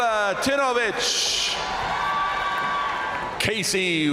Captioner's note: crowd cheering; crowd applauding